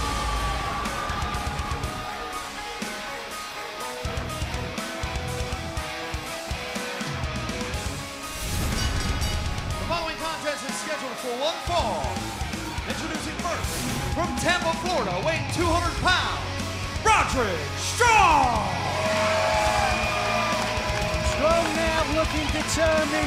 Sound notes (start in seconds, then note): 0.0 cheers and applause; 10.3 bell ringing